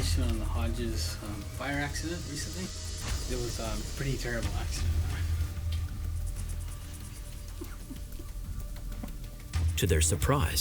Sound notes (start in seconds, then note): 7.6 sobbing